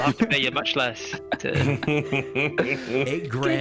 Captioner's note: chuckles